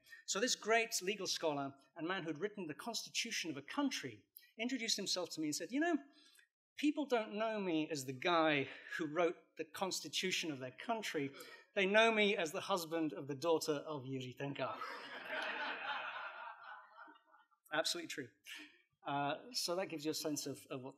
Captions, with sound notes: So this great legal scholar and man who'd written the Constitution of a country introduced himself to me and said, people don't know me as the guy who wrote the Constitution of their country. They know me as the husband of the daughter of Jiri Trnka. [LAUGHTER] Absolutely true. So that gives you a sense of what